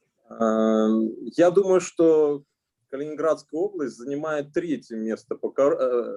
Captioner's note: speaking Russian language